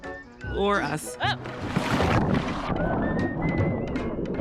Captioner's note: water splashes